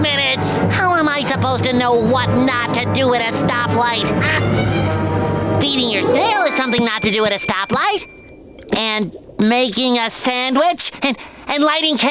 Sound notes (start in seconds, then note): none